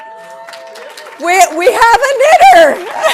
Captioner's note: audience applauding